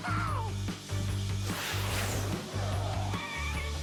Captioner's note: laughs